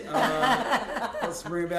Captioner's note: laughter